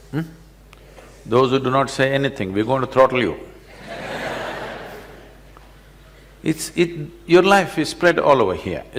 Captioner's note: laughter